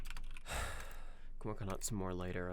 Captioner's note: sounds of typing; deep sigh